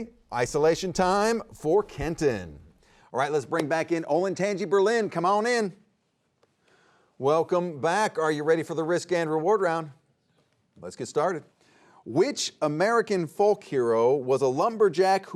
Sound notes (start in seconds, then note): none